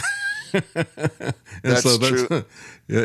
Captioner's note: laughs